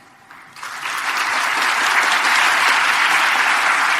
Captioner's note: applause